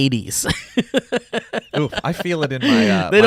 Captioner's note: laughs